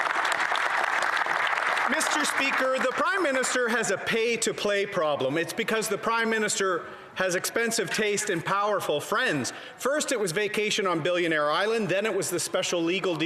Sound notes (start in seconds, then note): 1.8 some Applause